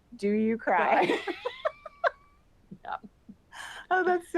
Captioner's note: laughter